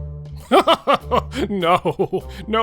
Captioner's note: laughter